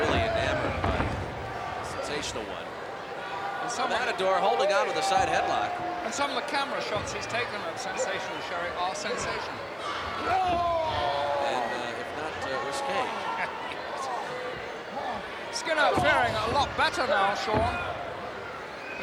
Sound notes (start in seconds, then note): 9.0 wrestlers grunting; 13.9 laughs